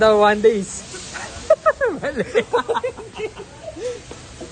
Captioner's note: chortle